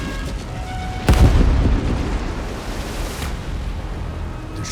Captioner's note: explosion booming